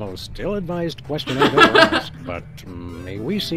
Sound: laughs

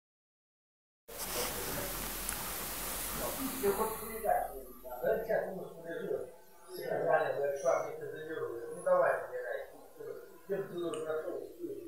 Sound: you hear the conversation of the neighbors

